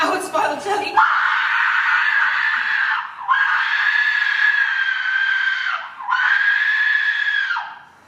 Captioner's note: Gloucester screams